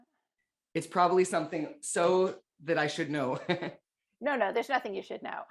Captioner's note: laughs